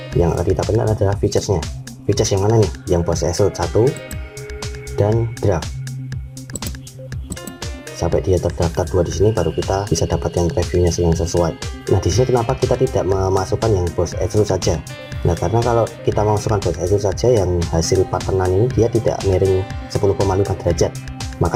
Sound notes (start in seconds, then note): 7.3 click